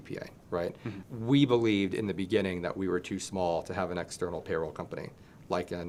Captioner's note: laughing